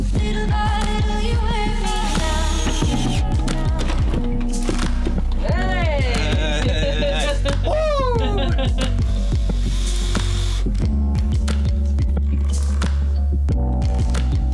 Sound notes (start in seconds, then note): 9.0 drill buzzing